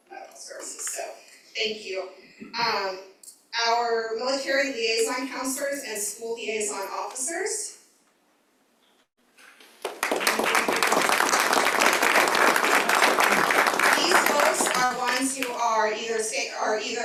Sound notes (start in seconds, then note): 13.0 applause